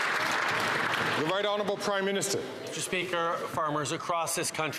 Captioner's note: some Applause